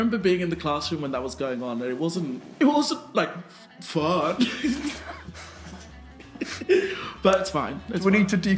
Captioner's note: laughing